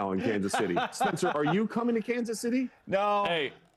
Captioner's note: laughter